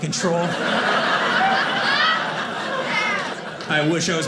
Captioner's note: audience laughing